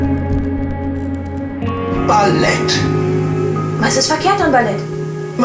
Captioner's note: TV sound